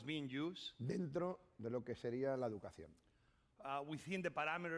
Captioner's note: speaking spanish